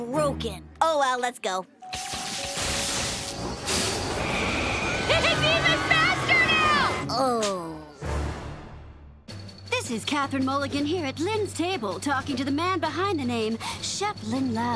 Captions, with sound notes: Oh well, let's go. [electricity sputtering] It's even faster now! Oh... This is Catherine Mulligan here at Lynn's table, talking to the man behind the name chef Lynn Loud.